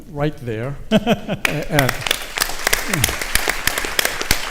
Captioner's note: audience laughs